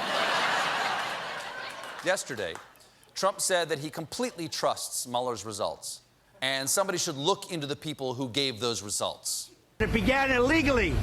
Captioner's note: laughter